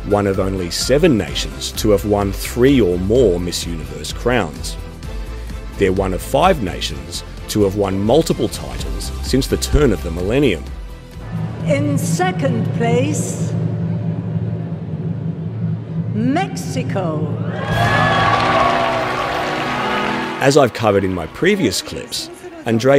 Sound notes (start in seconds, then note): 17.4 crowd cheering